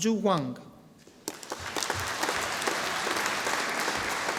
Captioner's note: audience applauding